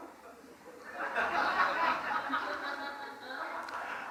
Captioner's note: audience laughs